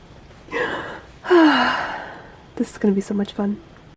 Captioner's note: happy sigh